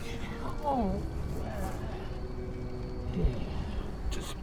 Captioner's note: groans